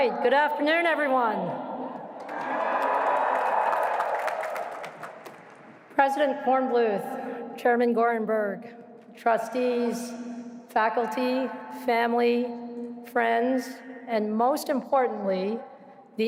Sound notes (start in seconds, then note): 2.2 cheering